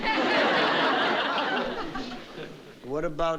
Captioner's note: laughter